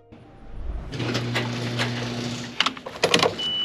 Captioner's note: door hums; keys click